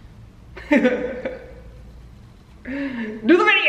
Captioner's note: laughs